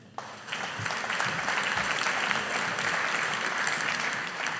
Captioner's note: audience applauding